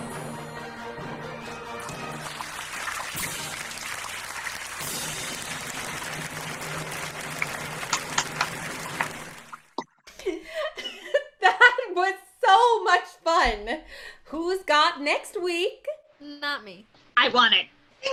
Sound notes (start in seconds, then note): 1.3 audience applause; 11.1 laughing